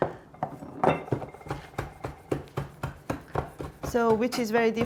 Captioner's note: chopping sounds